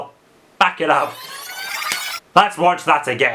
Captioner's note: tape rewinds